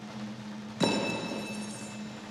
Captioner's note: drumroll; clanks